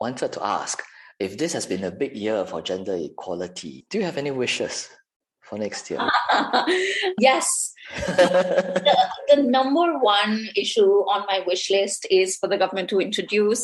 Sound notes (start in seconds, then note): 6.0 laughter